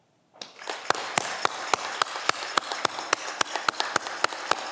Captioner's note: audience clapping